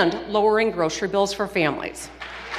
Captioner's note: applause